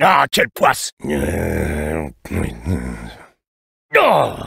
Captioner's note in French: marmonne